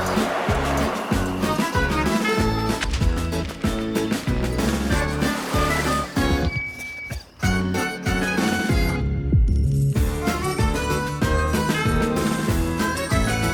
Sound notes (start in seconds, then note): 0.0 wind whooshing; 3.0 steps clomping; 5.6 water splashing; 9.9 quirky jazz music; 10.0 thumping club music